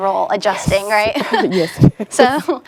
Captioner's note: laughing